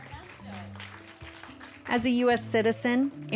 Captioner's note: applause